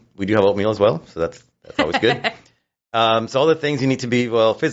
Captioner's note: laughs